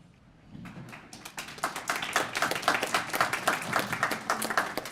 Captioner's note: applause